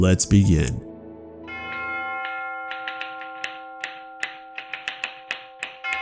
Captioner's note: typing